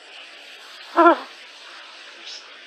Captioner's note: giggles